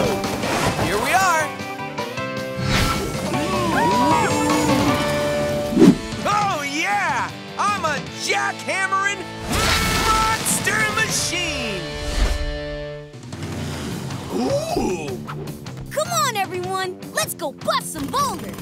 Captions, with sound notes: Here we are. [mooing] Oh, yeah, I'm a Jackhammering Monster Machine! Ooh. Come on, everyone, let's go bust some boulders.